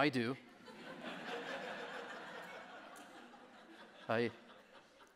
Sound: audience laughing

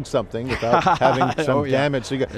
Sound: laughing

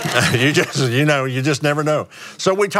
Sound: laughs

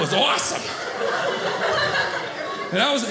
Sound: audience laughing

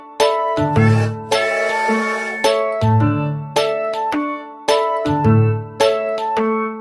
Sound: bright music; train whistles

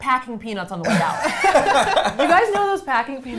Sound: all laughing

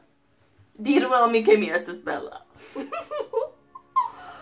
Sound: laugh

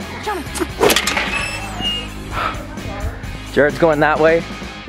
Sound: gate opening

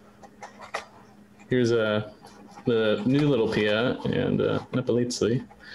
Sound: laughs

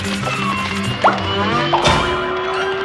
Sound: pop

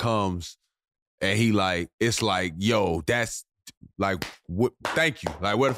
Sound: clapping

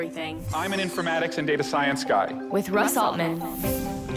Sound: voiceover

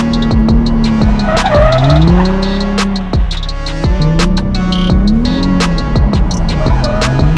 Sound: brakes screeching; car engine revving

